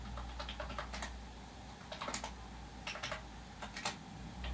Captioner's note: keyboard typing